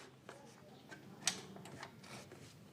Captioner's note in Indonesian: suara tv